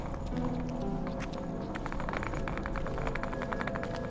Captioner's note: sound of luggage on pavement